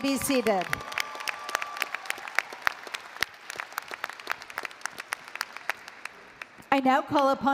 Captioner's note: applause & Cheering